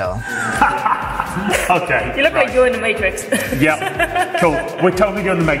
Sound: laughing

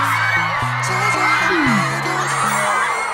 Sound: teary

